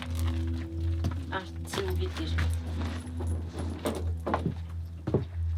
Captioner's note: foreign spoken audio